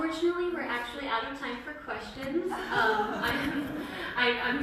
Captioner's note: laughter